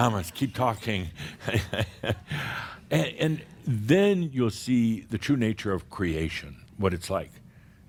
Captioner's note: Adamus chuckles